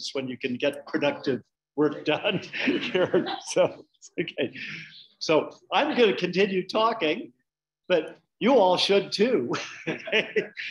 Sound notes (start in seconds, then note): 2.2 laughing; 2.6 audience laughing; 9.6 laughing